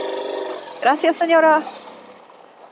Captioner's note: in Spanish